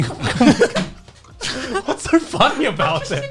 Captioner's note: laughs